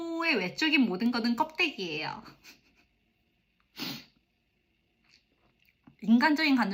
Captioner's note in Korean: 콧방귀